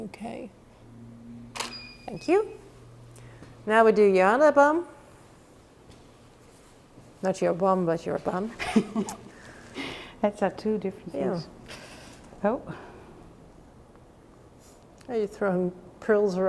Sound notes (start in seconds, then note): 1.6 camera shuttering; 8.6 laughing